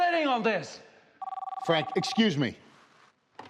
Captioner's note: telephone ringing